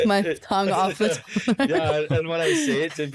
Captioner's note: laughs